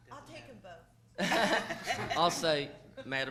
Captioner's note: people laughing